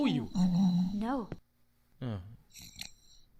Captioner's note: groaning